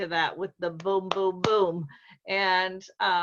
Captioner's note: clapping